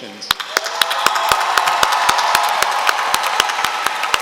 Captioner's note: applause